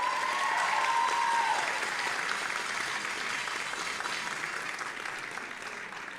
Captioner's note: audience applauding and cheering